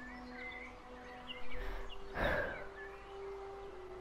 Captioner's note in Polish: wzdycha